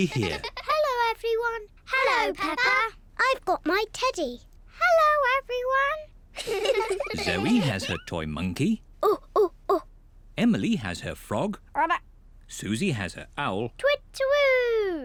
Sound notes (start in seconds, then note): 9.0 hoots